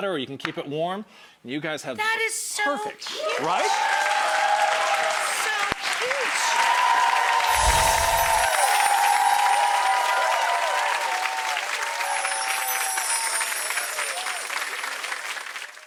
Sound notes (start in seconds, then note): 4.0 crowd cheers; 7.4 chiming music